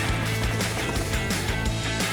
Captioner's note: helicopter whirring; upbeat music continues